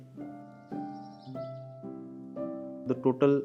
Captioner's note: birds chirping